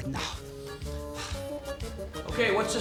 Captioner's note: breathing deeply; lively music